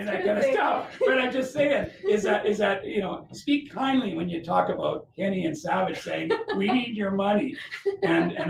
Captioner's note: laughter; laughter